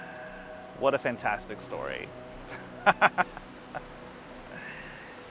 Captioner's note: laughs